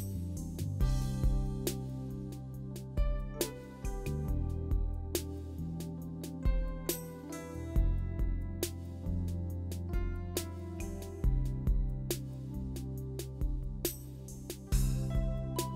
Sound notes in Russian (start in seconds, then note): none